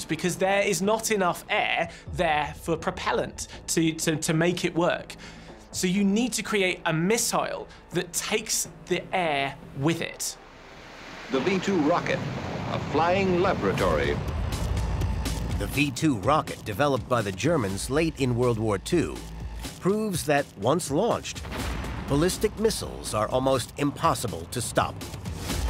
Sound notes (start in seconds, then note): 11.4 radio voice